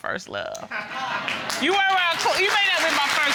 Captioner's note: audience applauding